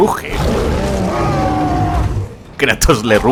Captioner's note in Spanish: Ambos rugen